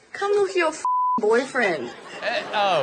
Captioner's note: beep